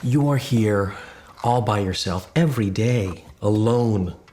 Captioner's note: none